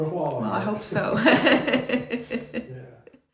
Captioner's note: laughing